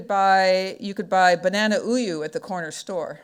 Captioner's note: speaking foreign language